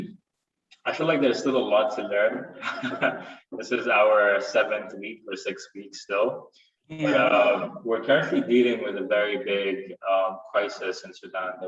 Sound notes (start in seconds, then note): 2.3 chuckles